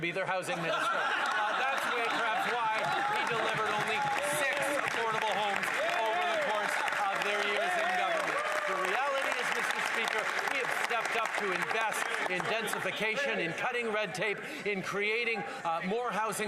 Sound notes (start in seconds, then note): 4.4 some Laughter; 11.2 some Applause